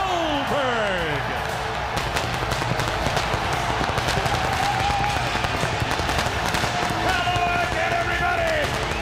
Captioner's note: crowd cheering